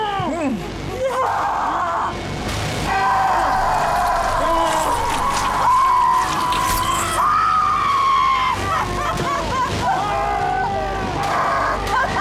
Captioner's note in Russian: крики